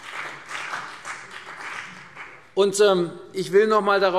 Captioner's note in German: Beifall CDU und BÜNDNIS 90/DIE GRÜNEN